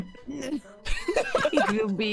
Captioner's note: laughter